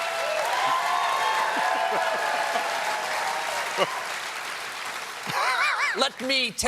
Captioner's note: cheers and applause